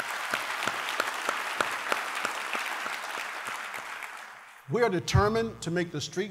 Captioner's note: applause